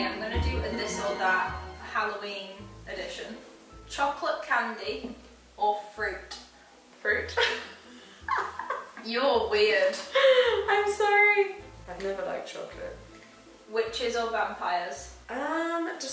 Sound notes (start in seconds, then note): 7.9 laughing